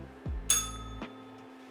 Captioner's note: bell rings